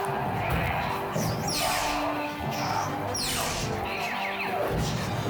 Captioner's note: blade whooshing